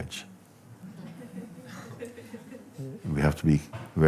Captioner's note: laughter